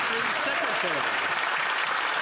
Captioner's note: some Applause